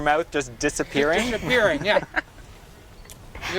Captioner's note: laugh